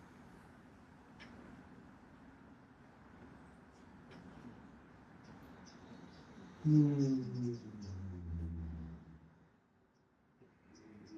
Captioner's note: humming